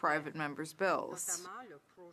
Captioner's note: speaking in French